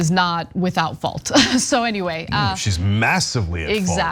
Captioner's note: laugh